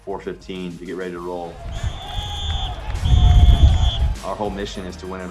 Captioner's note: whistle blowing